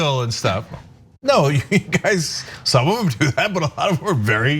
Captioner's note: laugh